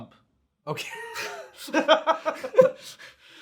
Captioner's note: all laugh